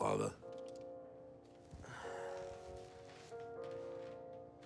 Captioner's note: sighs